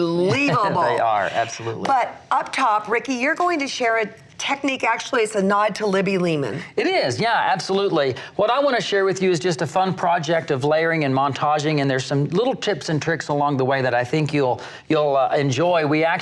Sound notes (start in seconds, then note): 0.2 laughs